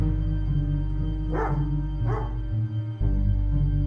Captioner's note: dog barking